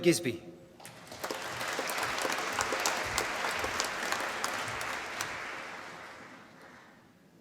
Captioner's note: applause